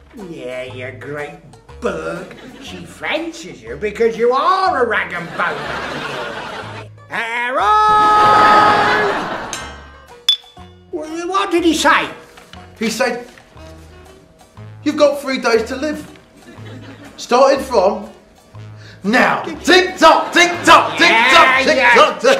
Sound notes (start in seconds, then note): 5.2 laughter; 8.2 laughter; 10.3 clink